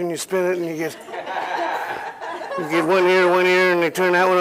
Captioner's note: laughter